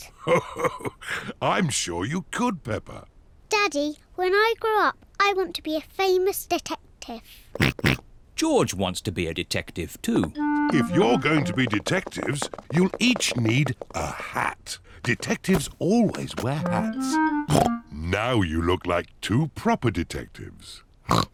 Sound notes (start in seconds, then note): 0.1 chuckles; 7.6 oinks